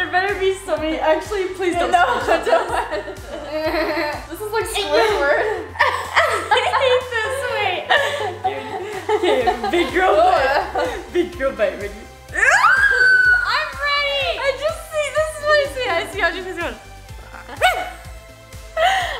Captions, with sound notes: - There better be somebody, actually please don't screen shot this. - This is like Squidward. (laughing) - I hate this, wait! Big girl bite, big girl bite, ready? (screaming) - I'm ready! - I just see this, this is what I see, I see Audrey's face going.